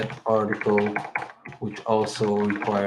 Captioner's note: keyboard clicks